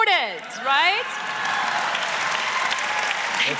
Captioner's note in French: Acclamations et applaudissements